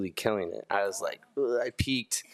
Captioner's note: groans